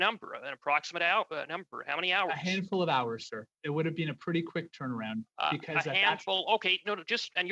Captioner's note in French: voix de l'interprète